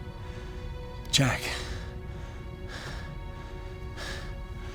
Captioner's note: breathing hard